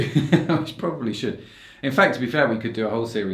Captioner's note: laughs